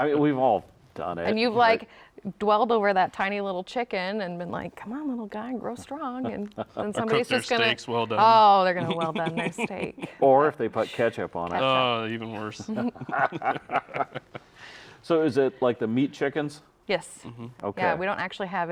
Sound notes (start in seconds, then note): 12.4 all laughing